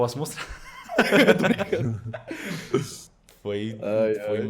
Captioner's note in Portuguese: Risos